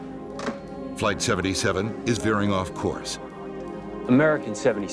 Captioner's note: voiceover